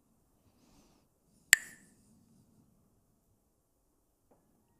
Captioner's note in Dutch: klakt met stokjes